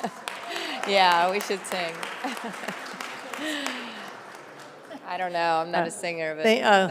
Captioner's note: applause